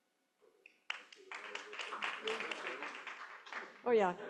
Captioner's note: applause